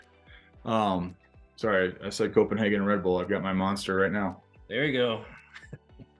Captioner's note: laughs